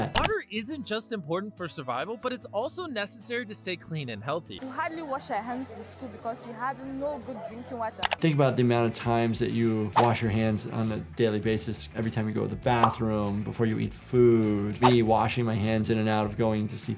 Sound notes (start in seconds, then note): 0.1 mouse clicking; 8.0 mouse clicking